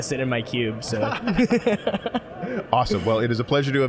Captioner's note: both laughing